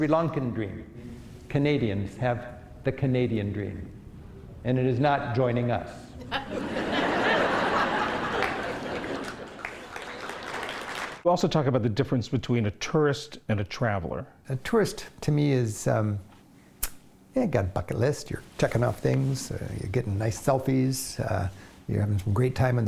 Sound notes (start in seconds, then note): 9.6 laughter; 12.0 applause